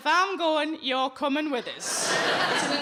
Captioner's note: audience laughing